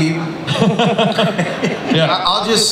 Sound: Chris laughs

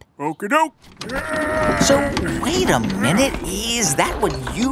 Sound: grunting, effort

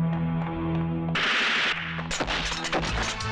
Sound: gun Firing

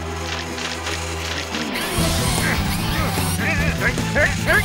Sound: machines whirling

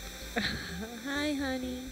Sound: chuckling

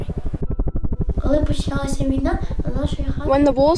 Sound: speaks ukrainian

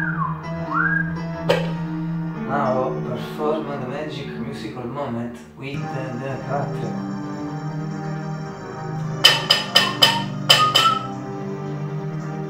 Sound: whistle; whistle

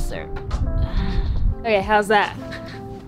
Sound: sighs

